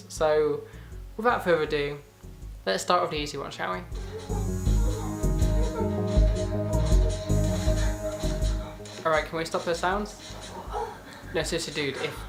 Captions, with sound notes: So, without further ado, let's start with the easy one, shall we? *sexual moans are heard* Alright, can we stop those sounds? No, seriously dude, if...